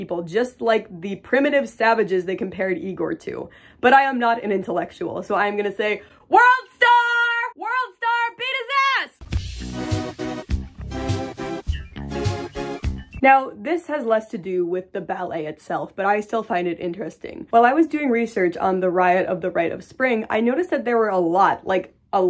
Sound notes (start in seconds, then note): 5.5 yelling; 9.2 funky music